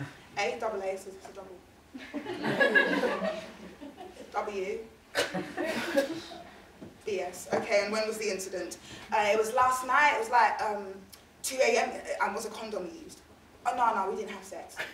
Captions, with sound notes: A, double A, it's a double- (audience laughing) W (audience laughing) B-S. "Okay and when was the incident?" It was last night, it was like 2:00 AM. "And was a condom used?" Oh no no, we didn't have sex.